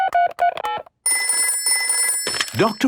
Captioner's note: dial tones beeping; ringing